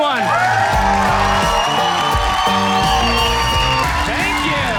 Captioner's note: audience cheers